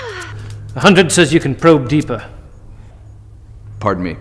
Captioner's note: deep voice